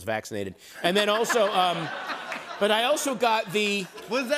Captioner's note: laughter